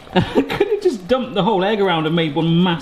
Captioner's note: laughs